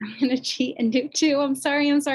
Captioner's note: chuckles